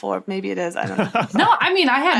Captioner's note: laughs